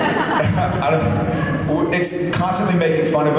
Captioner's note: laughs